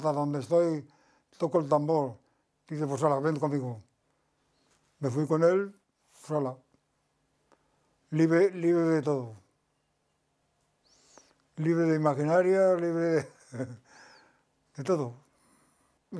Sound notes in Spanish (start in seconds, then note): 13.1 ríe